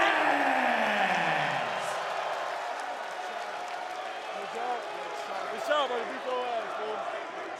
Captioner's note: audience applauds and cheers